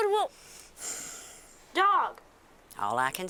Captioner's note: Jolene sighs